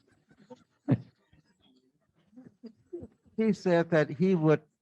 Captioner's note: laughing